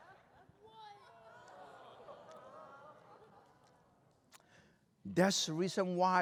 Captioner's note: laughter; crowd exclaims